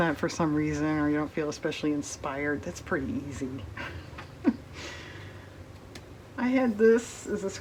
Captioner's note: laughs